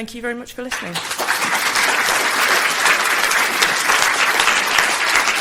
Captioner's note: audience clapping